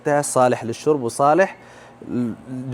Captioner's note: Arabic